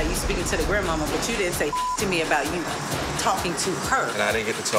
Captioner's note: beep